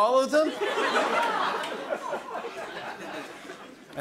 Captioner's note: laughter